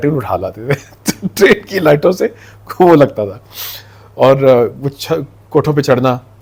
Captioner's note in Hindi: हंसी